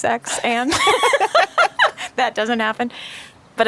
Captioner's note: both laughing